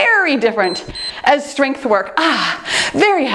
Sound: timer beeps; exhales

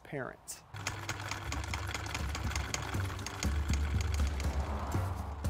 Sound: film reel clicking

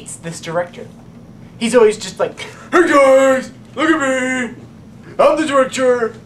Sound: deeper voice

